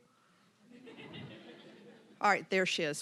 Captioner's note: audience laughing